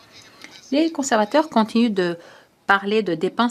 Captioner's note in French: voix de l'interprète